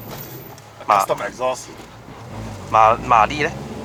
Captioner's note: custom exhaust